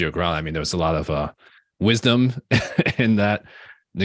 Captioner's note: chuckles